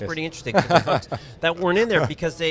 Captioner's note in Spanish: Riéndose